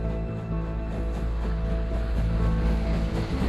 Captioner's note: train chugging